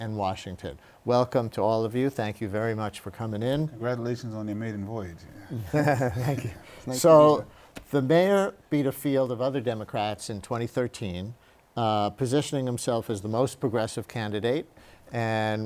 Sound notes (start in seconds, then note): 5.4 laughter